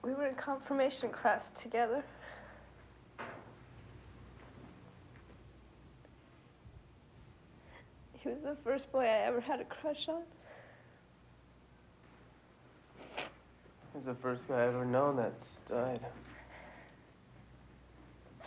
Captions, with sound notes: - We were in confirmation class together. He was the first boy I ever had a crush on. (sniffles) - He was the first guy I've ever known that's died.